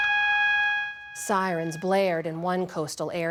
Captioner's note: sirens blaring